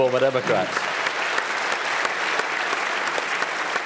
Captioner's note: applause